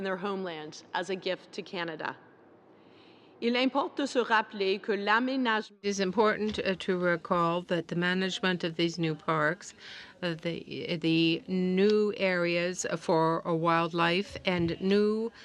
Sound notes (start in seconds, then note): 6.2 speaking French